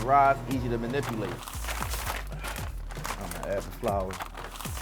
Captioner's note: bag crinkling